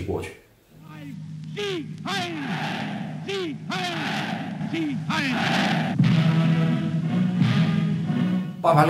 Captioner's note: cheers and applause